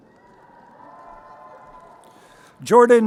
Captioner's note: crowd cheering